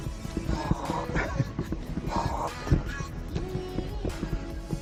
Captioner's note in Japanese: 笑い